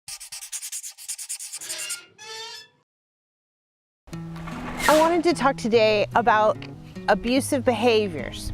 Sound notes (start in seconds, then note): 1.3 scratching